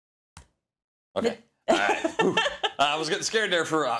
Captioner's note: laugh